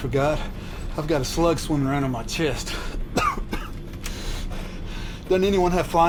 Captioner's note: coughs